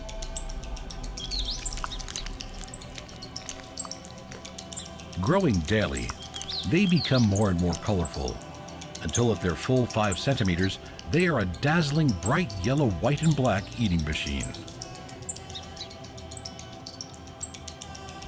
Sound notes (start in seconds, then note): 2.2 birds chirping; 14.8 birds chirping